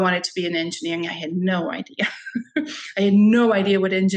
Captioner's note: chuckles